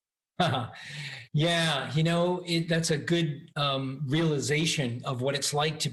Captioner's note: chuckles